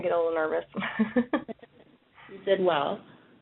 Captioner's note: laughs